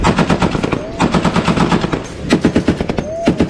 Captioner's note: weapon firing